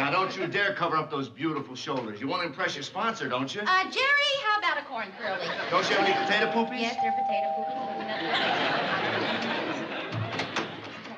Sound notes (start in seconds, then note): 5.9 doorbell ringing